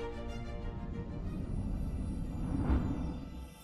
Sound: whooshing

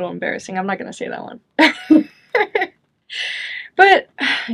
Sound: chuckles

